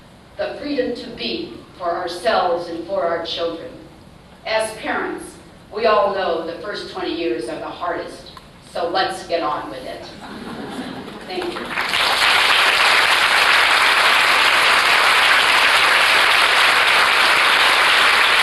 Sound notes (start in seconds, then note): 10.1 laughter; 11.8 applause